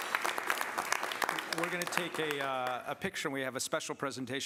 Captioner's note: applause